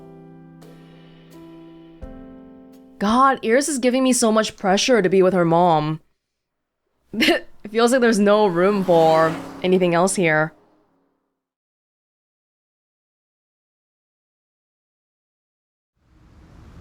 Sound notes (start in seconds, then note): 7.1 chuckles